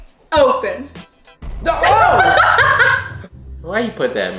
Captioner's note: laughing